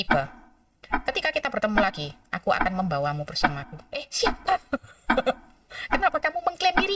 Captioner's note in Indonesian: tertawa